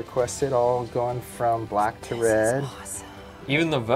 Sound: whispering

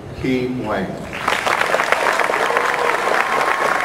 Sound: applause

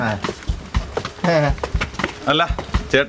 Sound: hesitant laugh

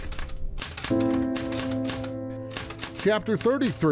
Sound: typewriter clicking

